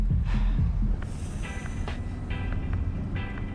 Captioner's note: chuckle